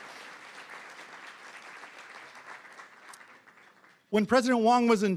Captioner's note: applause